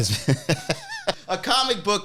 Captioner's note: laughing